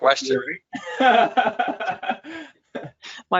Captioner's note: laughs